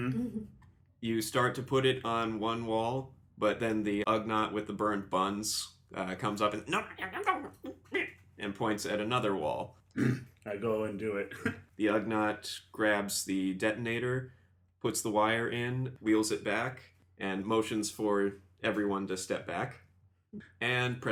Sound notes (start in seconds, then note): 10.0 affirmative grunt; 10.0 pig-like grunting